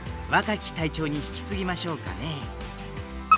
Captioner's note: none